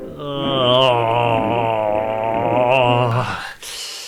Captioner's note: groans in anguish